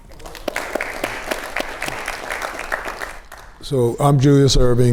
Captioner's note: audience applauds